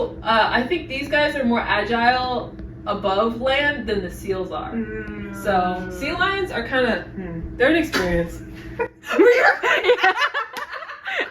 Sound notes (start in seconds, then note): 4.7 understandingly hmm’s